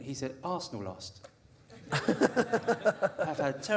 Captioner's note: audience laughter